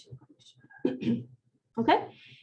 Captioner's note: clears throat